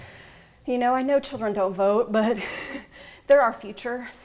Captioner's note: laughs